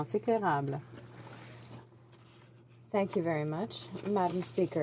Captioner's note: speaking French